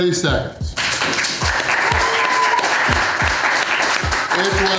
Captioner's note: crowd cheering and applause